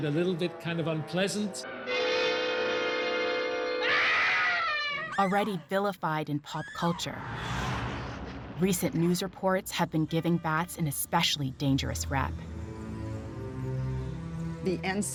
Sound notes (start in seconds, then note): 3.6 screams